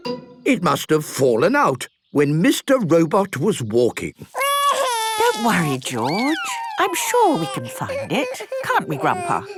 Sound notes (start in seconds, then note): 4.6 George wailing